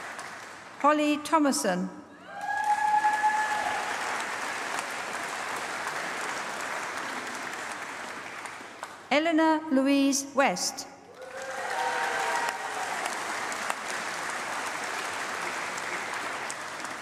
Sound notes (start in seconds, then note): 0.0 applause; 11.1 applause